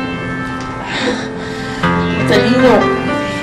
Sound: sighs

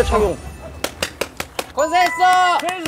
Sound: applause

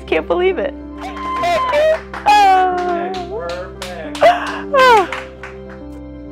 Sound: audience cheers and applauds

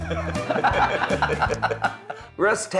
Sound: group laughs

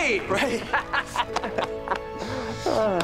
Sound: laughing

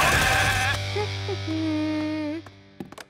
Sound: humming

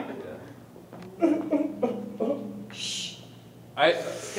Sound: crying

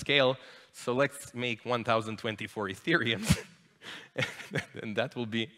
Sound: laughs

